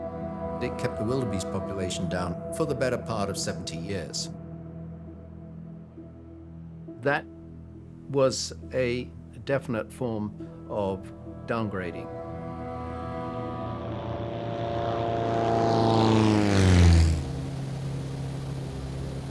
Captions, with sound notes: It kept the wildebeest population down for the better part of 70 years. That was a definite form of downgrading. (airplane buzzing)